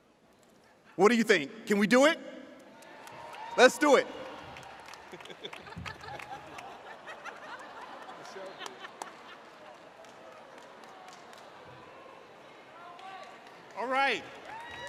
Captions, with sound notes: What do you think, can we do it? Let's do it. (professors laughing) All right.